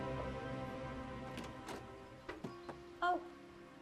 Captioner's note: door clicking